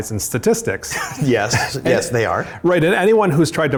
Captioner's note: laughs